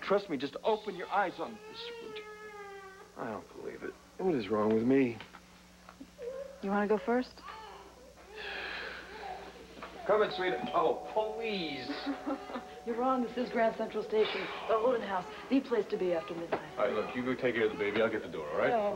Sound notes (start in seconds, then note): 3.6 baby cries; 12.6 doorbell rings